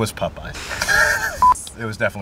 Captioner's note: camera beeps; both laugh